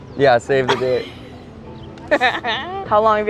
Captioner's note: chuckles